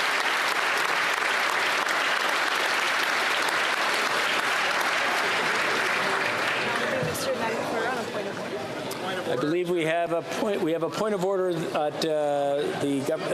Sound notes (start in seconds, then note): 0.0 cheering and applause; 7.6 applause